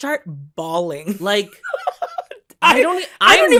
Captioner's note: laughter